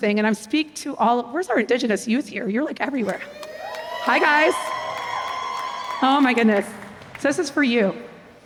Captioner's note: cheers